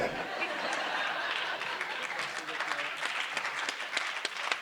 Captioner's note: audience laughs